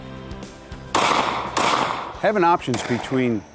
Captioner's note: gun fires twice